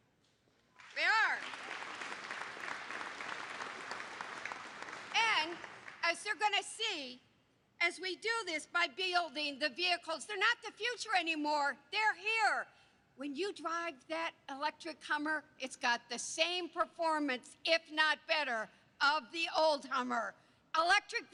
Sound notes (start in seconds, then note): 4.1 applause